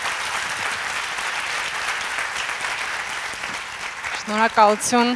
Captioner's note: applause